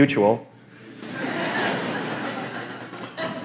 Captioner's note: La audiencia se ríe